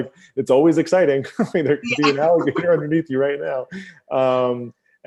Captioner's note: laughs; laughs